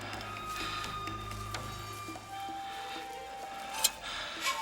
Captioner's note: man breathing heavily